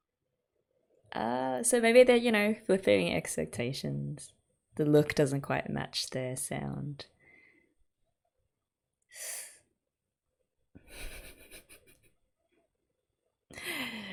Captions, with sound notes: So maybe they're you know, flipping expectations. The look doesn't quite match their sound. [intake of breath]